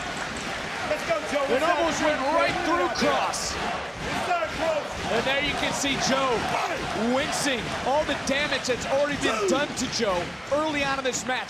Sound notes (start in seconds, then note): 0.3 audience cheering; 6.4 audience chanting "joe, joe"